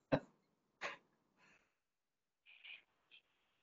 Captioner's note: chuckles